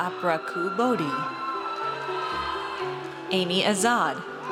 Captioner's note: audience cheers